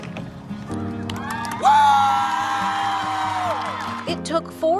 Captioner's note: inspirational instrumental; crowd cheering